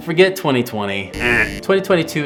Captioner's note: beep